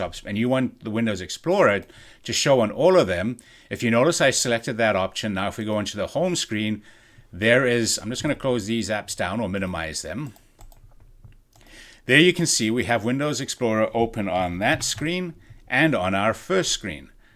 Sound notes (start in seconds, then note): 10.6 pointer clicking